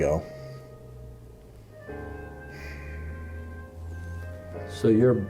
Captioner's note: exhale